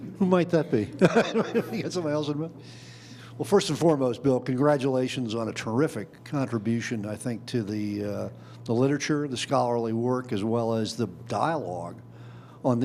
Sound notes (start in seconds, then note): 0.8 laughing